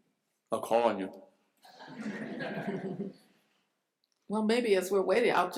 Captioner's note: laughter